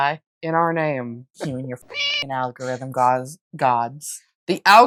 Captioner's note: meow